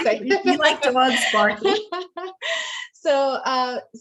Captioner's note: laughing